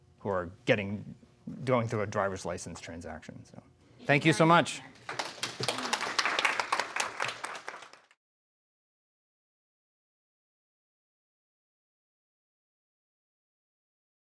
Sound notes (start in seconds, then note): 5.0 audience applauds